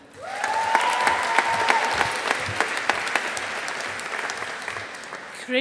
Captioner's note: audience applauding